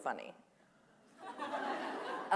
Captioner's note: laughter